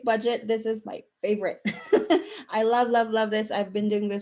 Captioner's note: chuckle